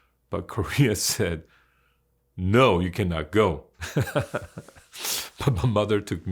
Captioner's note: laughs